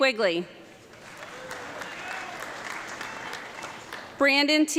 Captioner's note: audience clapping